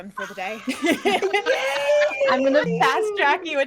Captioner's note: laughing